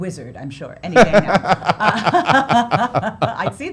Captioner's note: laughs